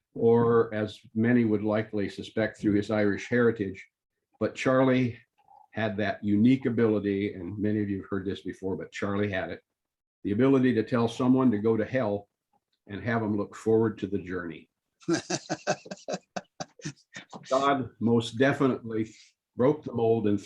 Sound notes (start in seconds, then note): 15.1 laughter